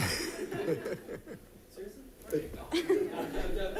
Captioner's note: laughter